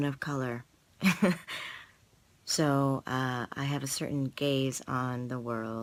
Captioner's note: laughs